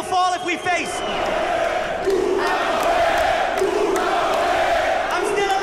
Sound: crowd chanting

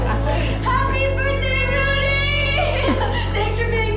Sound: laughter; chuckles

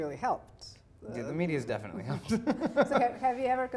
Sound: laughing

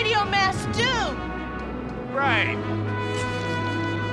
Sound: American accent

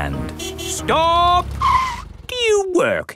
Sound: tires screeching

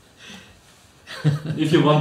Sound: laughs

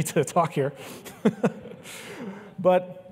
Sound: laughs

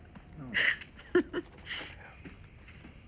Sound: laughs

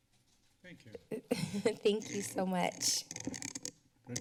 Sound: laughs

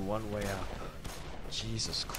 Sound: gunfire

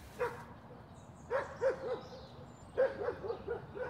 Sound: dog barks

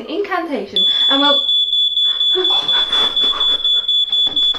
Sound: the fire alarm goes off

